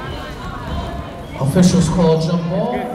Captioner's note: chattering